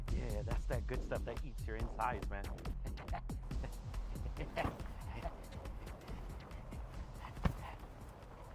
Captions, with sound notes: - Yeah, yeah. That's that good stuff that eats your insides, man. (person laughing)